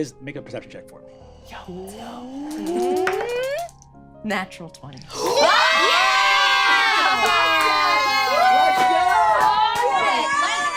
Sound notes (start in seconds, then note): 5.1 all cheering